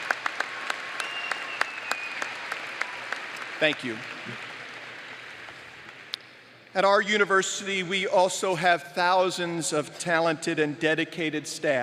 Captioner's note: applause